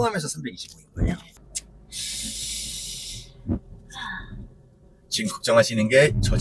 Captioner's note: deep sigh